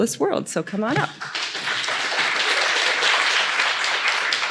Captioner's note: applause